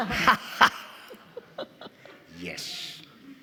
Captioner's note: all laughing